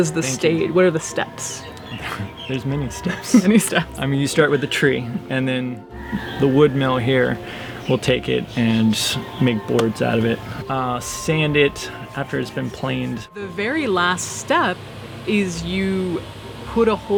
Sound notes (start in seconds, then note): 2.9 chuckles